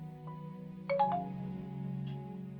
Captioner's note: new incoming message sound